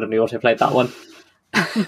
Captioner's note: laughs